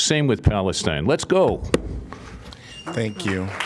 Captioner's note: applause